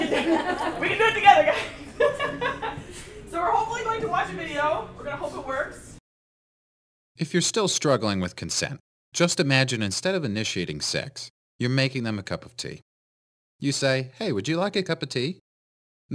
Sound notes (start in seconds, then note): 0.0 laugh